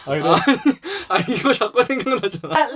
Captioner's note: is laughing hard